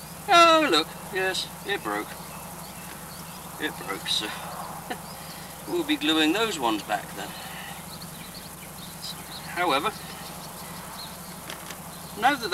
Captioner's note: laughs